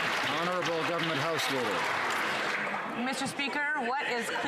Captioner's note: some Applause